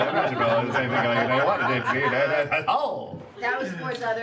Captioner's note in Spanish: risa